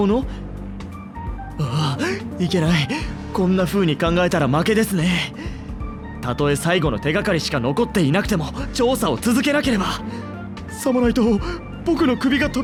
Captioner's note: sigh